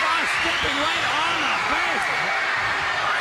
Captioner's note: crowd cheering